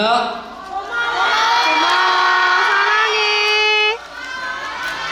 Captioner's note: are shouting Thank yous and I love yous